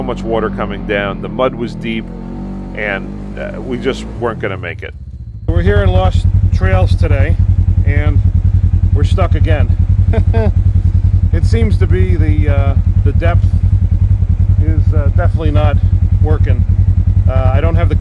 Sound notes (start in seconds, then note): 10.0 laugh